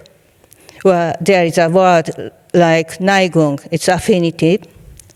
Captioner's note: speaking in foreign language